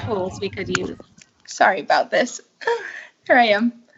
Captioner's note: laughs